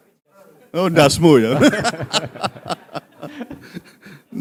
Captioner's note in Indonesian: tertawa